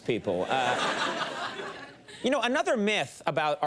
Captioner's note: crowd laughs